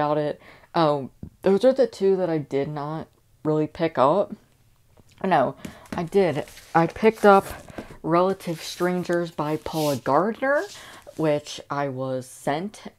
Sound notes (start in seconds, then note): none